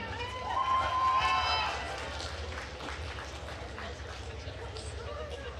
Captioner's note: attendees cheering and applauding